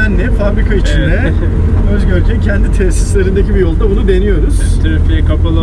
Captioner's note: laughing